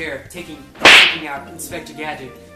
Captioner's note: slap